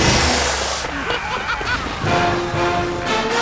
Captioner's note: explosion; laughs